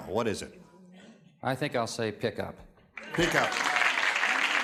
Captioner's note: cheers and applause